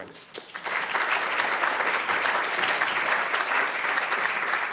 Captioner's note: crowd applauding